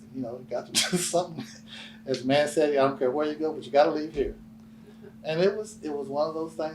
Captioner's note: laughs